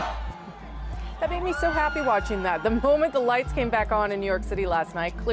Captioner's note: cheers and Applause